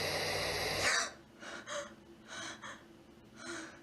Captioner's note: gasp